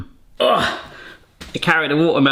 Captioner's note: groaning